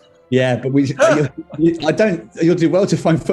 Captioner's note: laughing